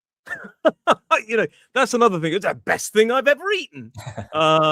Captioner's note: laughter